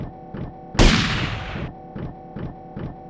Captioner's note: gunshots